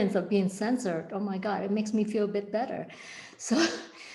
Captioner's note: chuckles